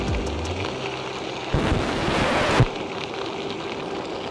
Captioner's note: record needle scratches